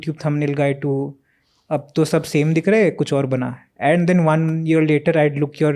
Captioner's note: speaks in Hindi